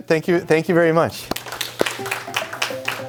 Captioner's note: applause